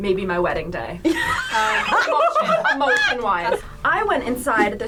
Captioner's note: group laughs